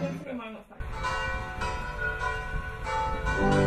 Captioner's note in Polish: bicie dzwonu